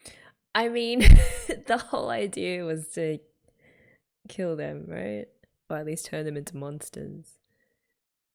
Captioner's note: laughs